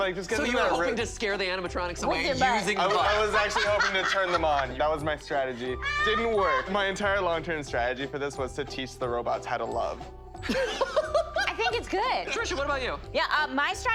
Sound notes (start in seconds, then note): 10.4 laughing